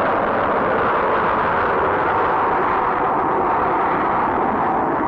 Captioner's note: rocket whirring